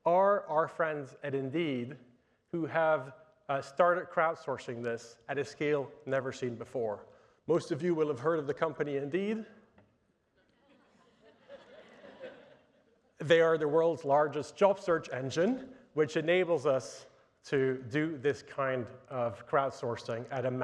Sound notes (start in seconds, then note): 10.6 audience laughing